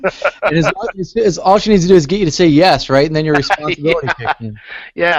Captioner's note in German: lacht